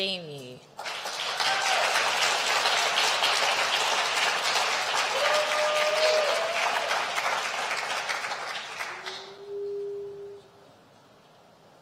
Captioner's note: applause